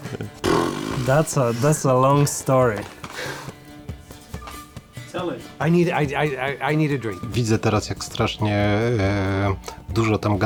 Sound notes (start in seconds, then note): 0.4 blows raspberry; 1.0 in English; 7.6 in Polish